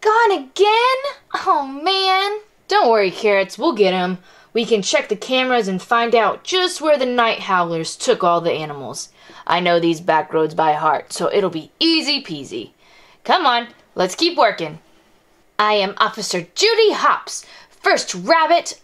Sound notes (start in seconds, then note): none